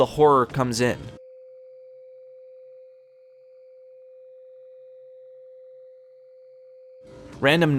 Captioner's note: quiet sustained hum